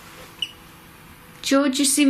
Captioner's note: beep